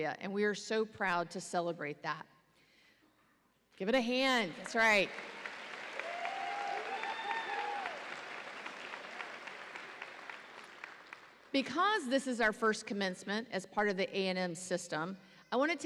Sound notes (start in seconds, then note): 5.1 audience applauds and cheers